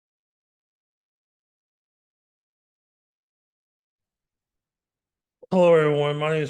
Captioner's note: silence